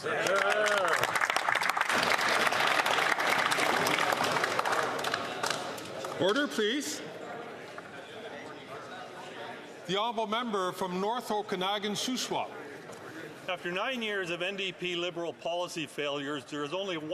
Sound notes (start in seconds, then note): 7.0 some Applause